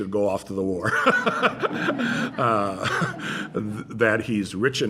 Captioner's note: laughter